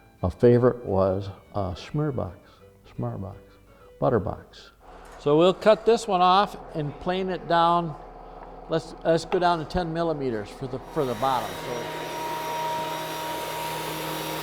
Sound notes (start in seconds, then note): 11.8 whirring of saw motor